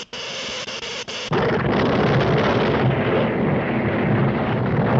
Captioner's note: explosion booms